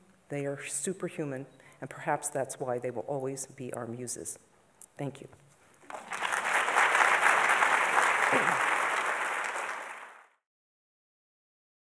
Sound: applause

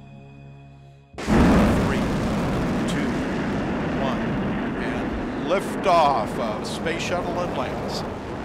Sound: rocket engine blasting

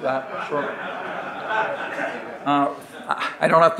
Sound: audience laughing

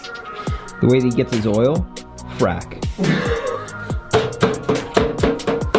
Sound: laughter

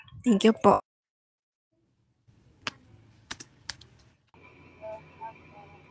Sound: foreign

